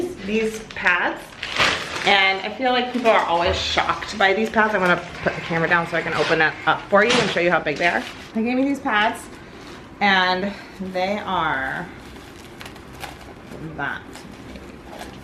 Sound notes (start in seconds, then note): none